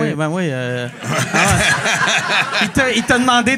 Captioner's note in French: rires